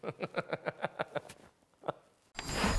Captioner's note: laughing